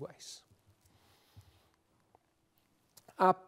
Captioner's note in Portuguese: pausa sonora